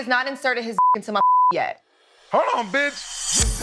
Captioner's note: beep